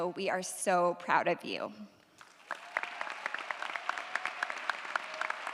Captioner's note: audience applauds